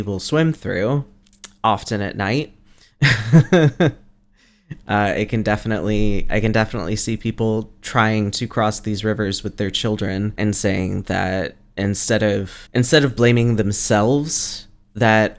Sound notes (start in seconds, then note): 3.0 laughs